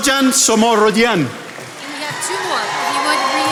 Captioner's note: attendees applauding